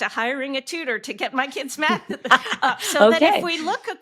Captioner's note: laughing